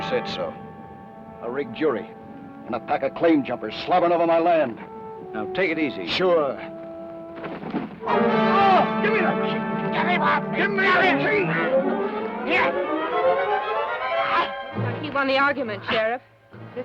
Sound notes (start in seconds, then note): 8.8 groans